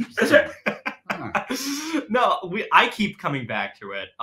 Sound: laughing

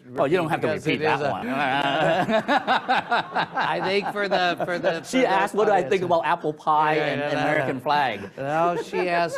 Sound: laughter

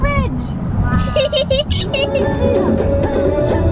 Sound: giggling

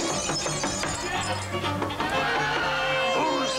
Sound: knock knock

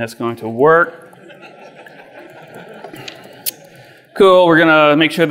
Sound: audience laughs

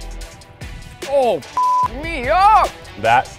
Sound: beep

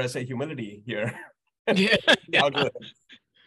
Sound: laughs

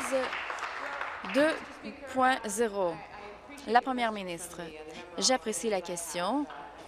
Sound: applause

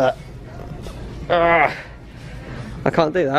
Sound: grunt

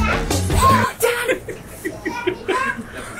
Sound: gasps; laughing

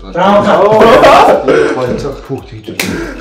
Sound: laughter

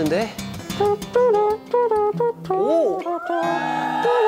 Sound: trumpets along with his lips

